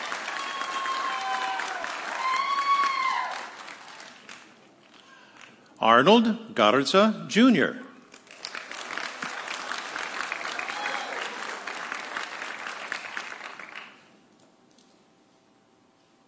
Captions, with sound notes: (audience cheering) Arnold Garza Jr. (audience cheering)